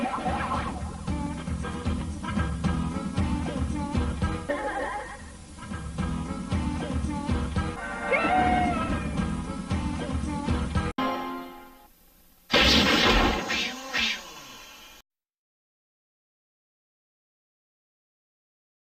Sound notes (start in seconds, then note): 0.3 nostalgic music continuing; 12.5 wall breaking, cartoon swishing sounds; 15.3 silence